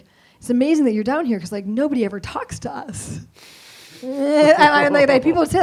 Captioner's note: laughs